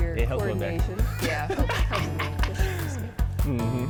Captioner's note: laughs